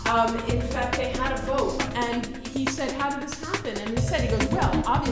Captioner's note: people chatting